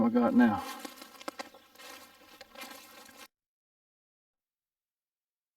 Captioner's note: leaves and twigs crunching